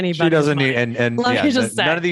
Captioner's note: laughs